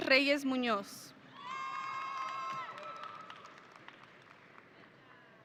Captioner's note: audience cheering